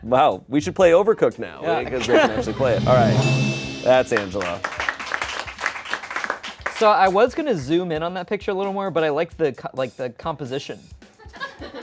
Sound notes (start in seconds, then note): 1.9 bell dings; 4.1 audience applauds